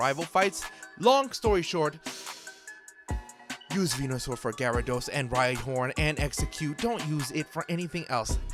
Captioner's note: inhale